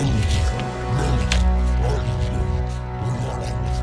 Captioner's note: chewing and grunting continues